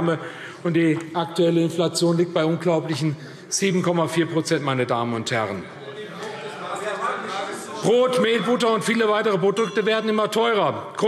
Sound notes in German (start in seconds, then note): 5.6 Zurufe AfD – Glockenzeichen